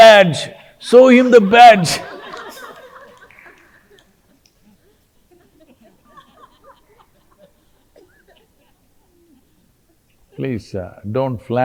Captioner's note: laughter